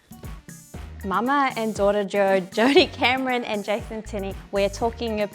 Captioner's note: chuckles